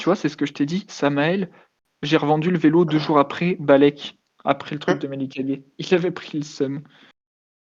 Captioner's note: laugh